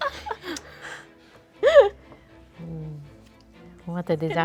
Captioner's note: group laughs